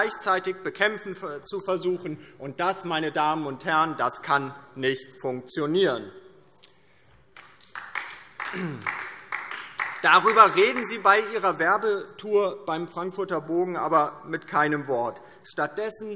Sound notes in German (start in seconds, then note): 7.3 Beifall DIE LINKE